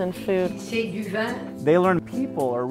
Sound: foreign language

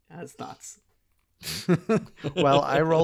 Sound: group laughing

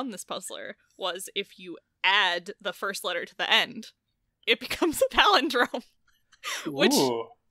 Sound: laughs

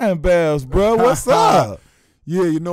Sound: laughing

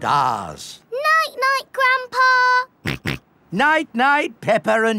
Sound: snorts

